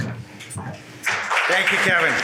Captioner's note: audience applauds